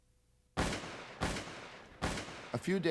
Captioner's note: gun shots